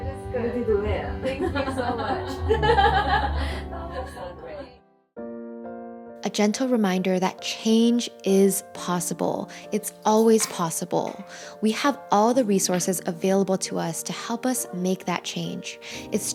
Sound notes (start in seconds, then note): 1.3 laughing